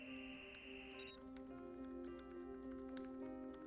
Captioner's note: modem Buzzing; electronic Beep